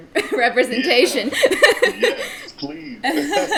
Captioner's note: laughing